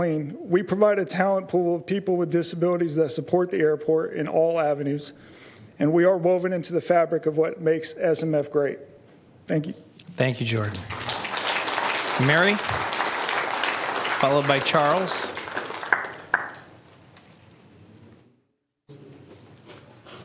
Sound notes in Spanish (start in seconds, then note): 16.2 Aplausos